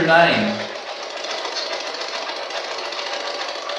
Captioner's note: white Noise